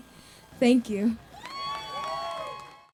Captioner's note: cheering and clapping